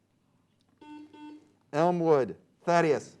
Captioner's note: beep